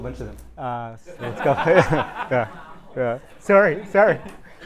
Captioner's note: audience laughing